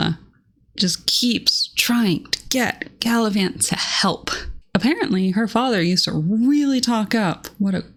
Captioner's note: none